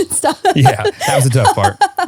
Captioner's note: laughing